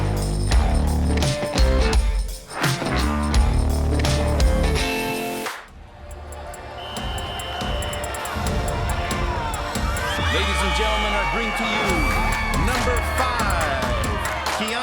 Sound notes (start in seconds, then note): 6.3 whistle blows; 7.1 dramatic music; 10.0 cheering and screaming